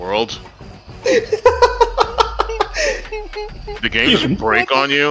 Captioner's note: chuckle